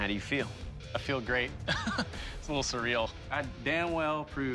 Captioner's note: laughs